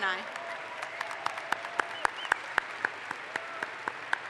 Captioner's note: audience applauds